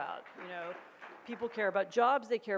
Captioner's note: audience claps